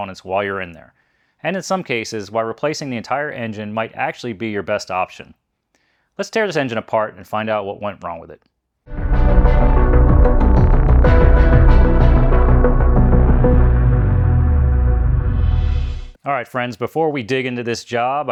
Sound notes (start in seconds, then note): 8.9 upbeat music; 12.6 engine revving